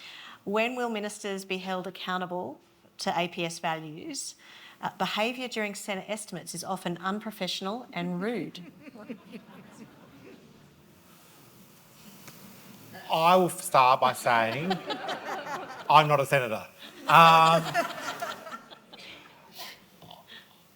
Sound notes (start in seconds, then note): 8.6 audience laughing; 16.8 audience laughing